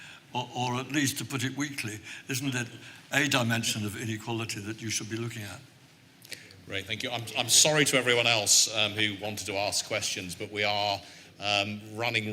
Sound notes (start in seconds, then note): none